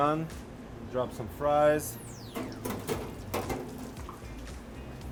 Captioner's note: clanking sound